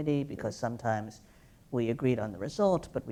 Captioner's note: none